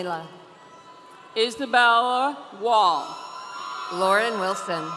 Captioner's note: audience cheering